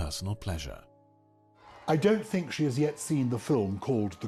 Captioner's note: voiceover